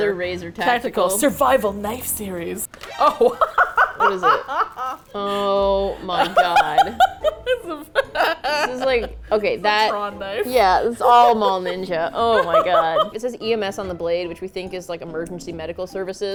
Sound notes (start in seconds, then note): 3.7 laughs; 6.4 laughs uproariously; 12.3 laughs